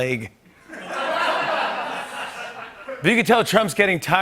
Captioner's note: laughter